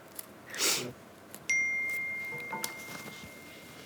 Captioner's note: message sound